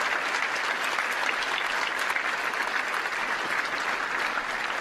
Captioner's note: applause